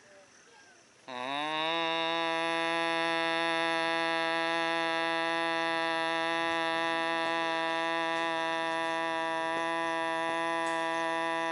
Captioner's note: humming